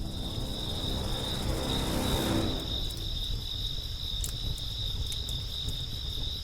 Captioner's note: tense music; fire crackling; crickets chirping